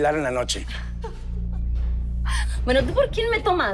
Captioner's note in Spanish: Risas